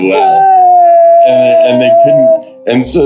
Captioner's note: crying